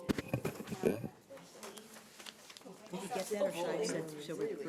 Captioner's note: members chattering